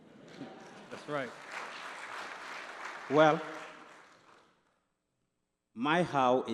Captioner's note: applause